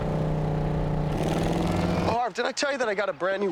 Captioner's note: engine revving